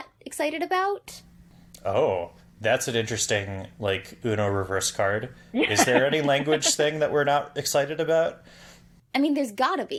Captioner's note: laughs